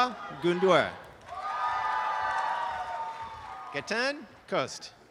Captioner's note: applause and cheering